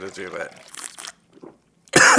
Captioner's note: sips; gulps; coughs